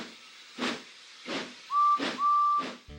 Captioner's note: toot toot